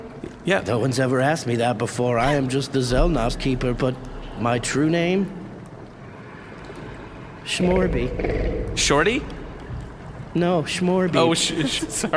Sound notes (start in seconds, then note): 7.5 the beast growls